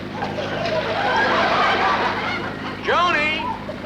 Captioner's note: audience laughter